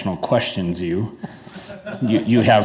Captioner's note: attendees laugh